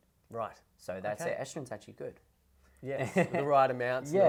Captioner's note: laughs